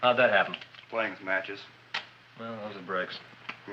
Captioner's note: match striking